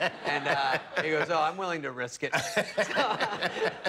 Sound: laughter

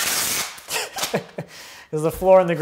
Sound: laughs

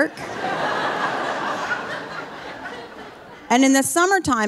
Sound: audience laughing

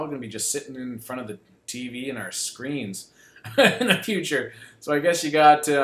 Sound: laughs

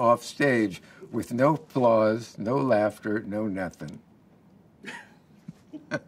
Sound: laughs

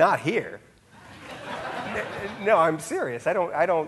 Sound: audience laughing

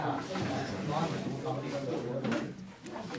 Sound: louder chatter

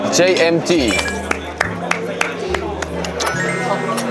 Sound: applause

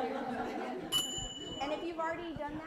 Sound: bells

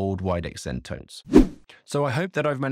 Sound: swooping transition

